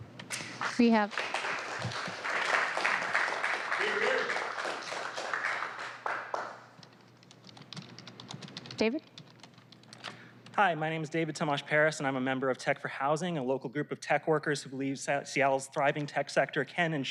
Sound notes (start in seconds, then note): 6.1 applause